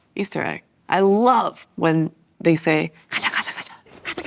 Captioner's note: speaks Korean